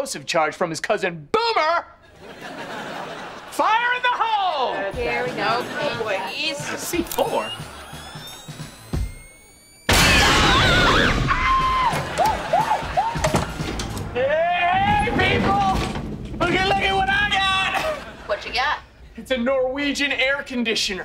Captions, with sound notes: from his cousin Boomer! Fire in the hole! - Here we go. - Oh, boy. C-4? [screaming] Hey, people! Lookie, lookie, what I got! Whatcha got? It's a Norwegian air conditioner.